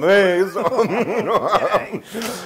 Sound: laugh

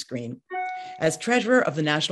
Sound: computer bleeps

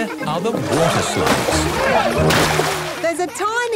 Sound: laughing

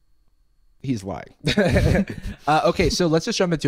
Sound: laughs

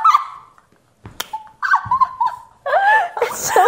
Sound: laughs

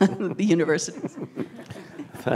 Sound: laughter

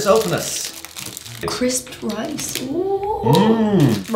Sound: happy noise

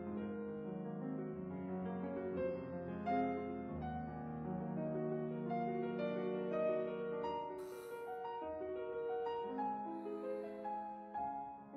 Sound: sighs

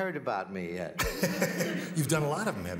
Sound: laughs

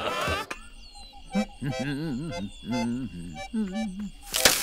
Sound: laughing; accordion plays; humming; loud rustling

